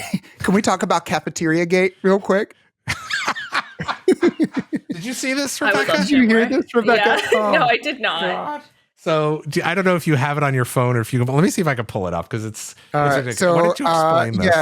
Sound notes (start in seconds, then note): 2.8 laughter